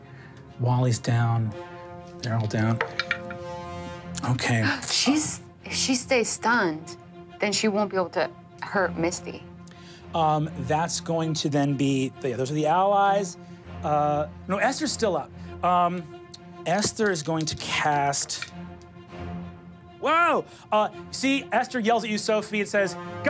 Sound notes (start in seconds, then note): none